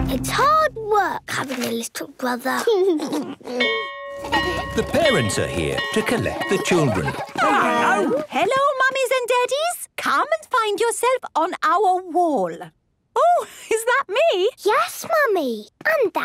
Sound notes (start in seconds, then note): 2.7 giggles; 3.6 bell ringing